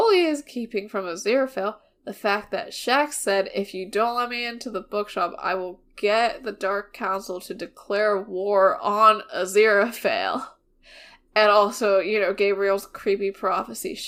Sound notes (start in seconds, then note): none